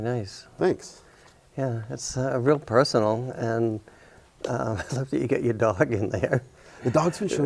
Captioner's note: chuckling